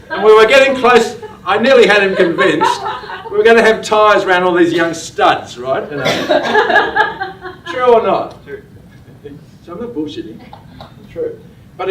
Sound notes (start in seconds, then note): 2.0 laughter; 6.0 laughter